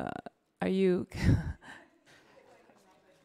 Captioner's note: scoffs